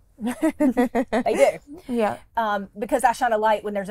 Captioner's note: laughs